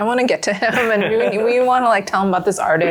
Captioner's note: laughs